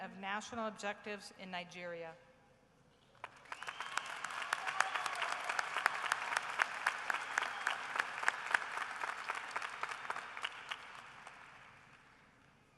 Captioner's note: applause